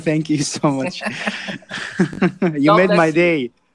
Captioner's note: laughs